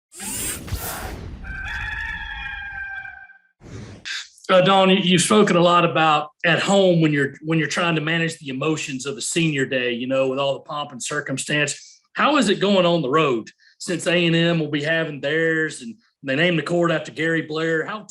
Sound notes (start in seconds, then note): 0.1 graphics whooshing; 1.4 rooster crows